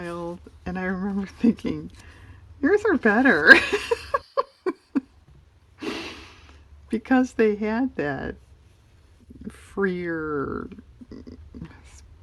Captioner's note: laughs